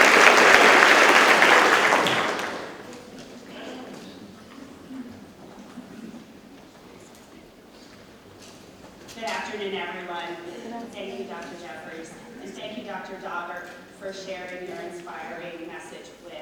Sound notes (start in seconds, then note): 2.1 audience chattering